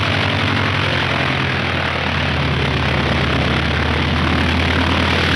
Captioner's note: engine roaring